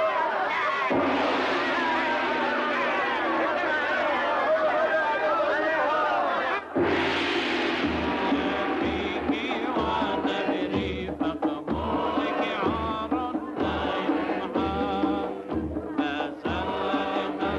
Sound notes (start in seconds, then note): 0.9 gong crashes; 6.8 gong crashes; 8.9 people chanting in foreign language